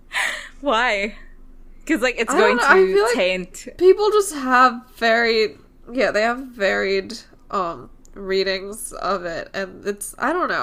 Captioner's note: laughs